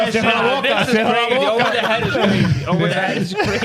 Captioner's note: speaking In Foreign Language